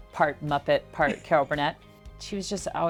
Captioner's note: laughs